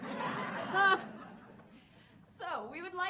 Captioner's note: audience laughing